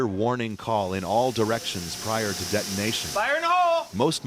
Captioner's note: fuse lit